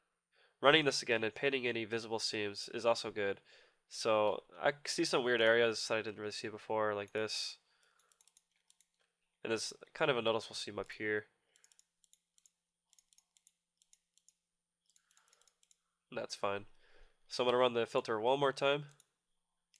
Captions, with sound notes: Running this again and painting invisible seams is also good. I see some weird areas that I didn't see before like this. It's kind of a noticeable seam up here. (clicking sounds) That's fine. I'm going to run the filter one more time.